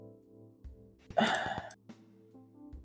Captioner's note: sigh